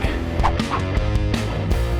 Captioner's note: rock music; whip cracking